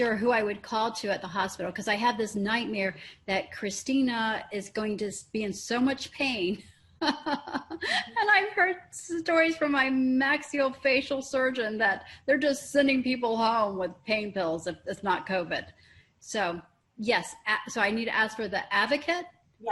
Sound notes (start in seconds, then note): 6.9 laughing